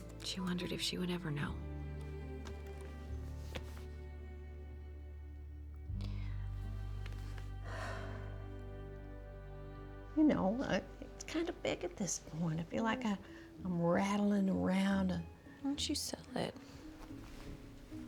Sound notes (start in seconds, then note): 3.3 laptop closes; 7.6 sighs